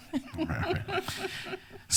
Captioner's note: laughs